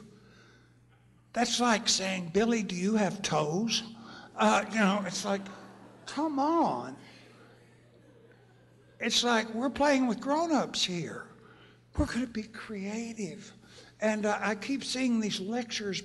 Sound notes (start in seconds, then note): 7.1 laughter